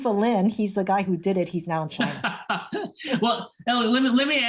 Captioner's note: laughter